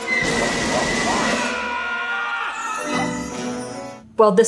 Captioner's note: Lumiere blowing; dramatic music; person screaming